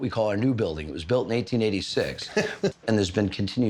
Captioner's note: laughs